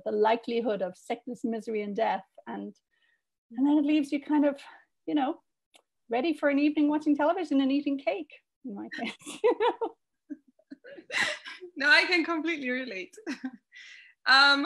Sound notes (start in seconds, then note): 9.0 laughter